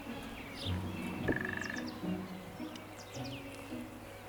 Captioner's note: woodpecker drums